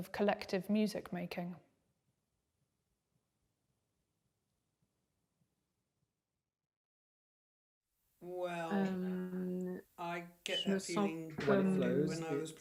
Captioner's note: sonic collage of voices speaking